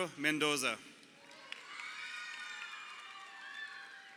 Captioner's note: crowd cheering